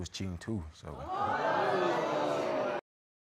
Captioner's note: audience exclaiming